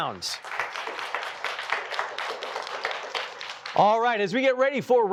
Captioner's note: applause